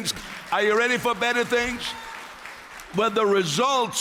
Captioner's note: applause